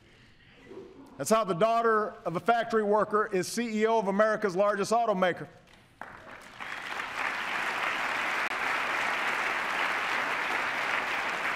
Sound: applause

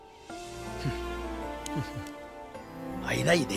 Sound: chuckles

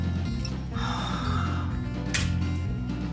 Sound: playful upbeat instrumental; gasps; crack

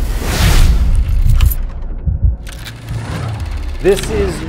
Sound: swoosh sound

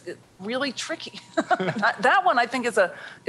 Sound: chuckling

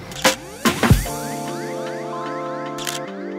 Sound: camera shutter clicks

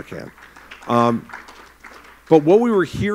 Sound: applause

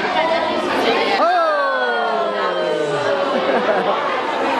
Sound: shouts and laughter

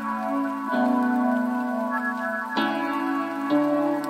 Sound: rain drops

